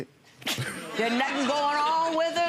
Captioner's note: audience laughs